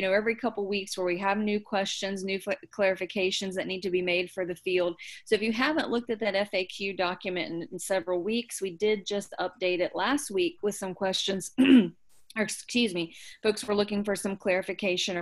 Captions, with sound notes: every couple of weeks where we have new questions, new clarifications that need to be made for the field. So if you haven't looked at that FAQ document in several weeks, we did just update it last week with some questions, (throat clearing) excuse me, folks were looking for some clarification